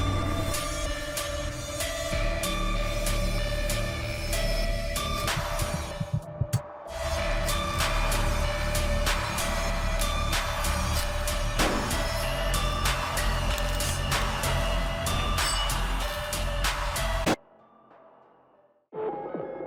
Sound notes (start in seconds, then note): 5.2 heart beating rapidly; 13.2 dark music continues